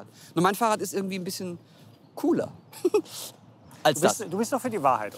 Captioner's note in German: lacht